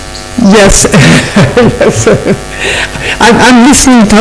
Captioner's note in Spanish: se ríe